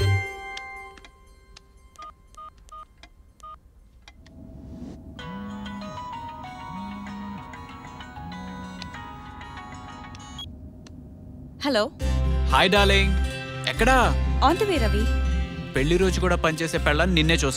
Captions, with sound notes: [PHONE RINGING] Hello. Hi, darling. Where are you? I am on the way, Ravi. Will you work even on our anniversary day?